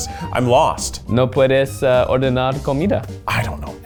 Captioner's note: speaking Spanish